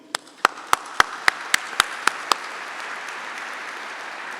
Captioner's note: audience applauding